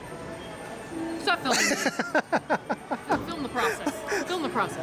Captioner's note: laughs